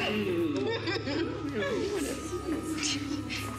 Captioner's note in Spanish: risas